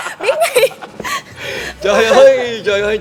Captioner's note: laugh